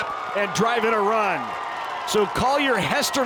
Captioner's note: fans cheering